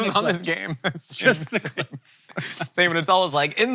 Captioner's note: both laughing